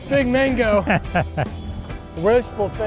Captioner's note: chuckling